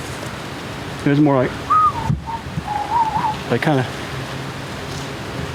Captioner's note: whistling